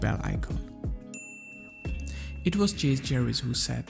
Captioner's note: bell rings